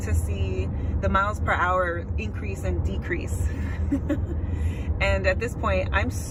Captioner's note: laughs